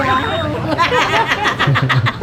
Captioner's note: laughing